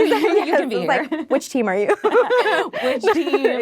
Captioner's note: laughing